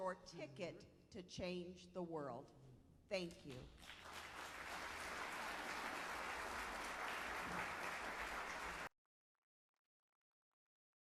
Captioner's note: applause